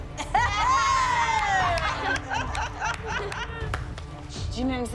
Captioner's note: laughter, cheering